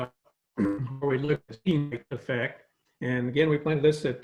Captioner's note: speaking faintly